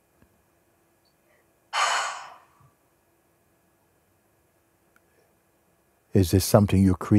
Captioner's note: seufzt